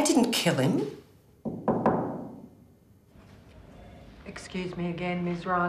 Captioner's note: knocking